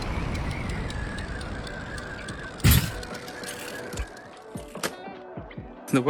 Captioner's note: wind gushing